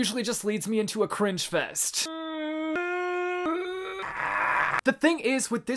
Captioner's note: uncomfortable cringy moaning